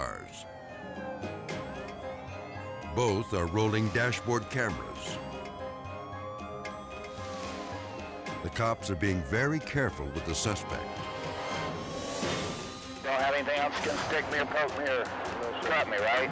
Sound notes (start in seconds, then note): 0.3 dramatic music; 0.3 sirens blaring; 4.9 dramatic music; 4.9 sirens blaring; 10.6 suspenseful music